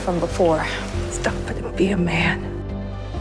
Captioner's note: voiceover